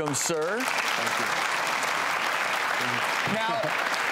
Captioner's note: audience applause